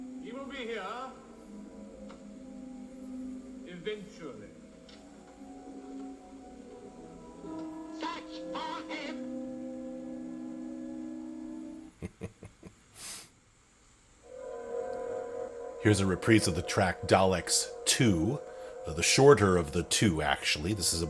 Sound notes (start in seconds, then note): 11.9 chuckle